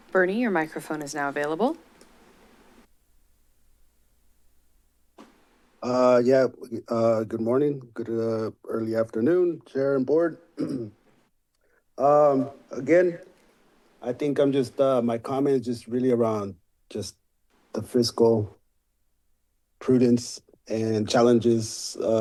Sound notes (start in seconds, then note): 1.8 silence; 10.5 clears throat